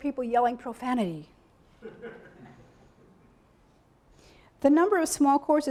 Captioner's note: audience laughing